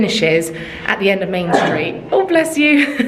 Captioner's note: sneezing